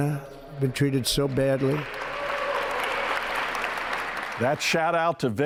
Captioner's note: crowd cheers loudly